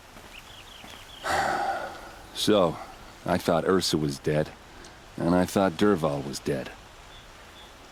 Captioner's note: sighs